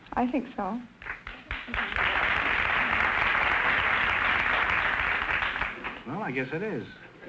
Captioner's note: applause